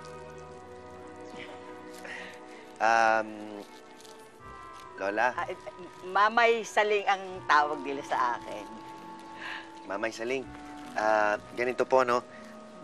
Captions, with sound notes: [chuckles] Um... -Grandma... -They call me Mamay Saling. Mamay Saling... here's the thing.